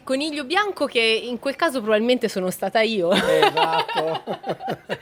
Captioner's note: laugh